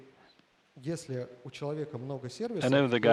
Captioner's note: speaking russian